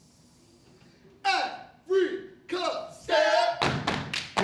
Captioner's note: stomping and clapping